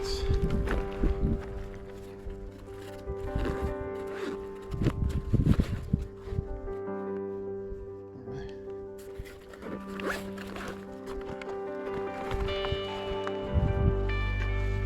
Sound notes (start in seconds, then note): 0.0 wind blowing